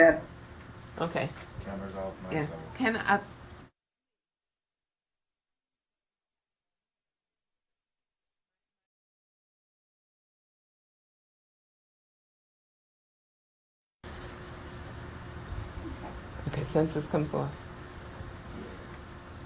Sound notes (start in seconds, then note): 4.0 silence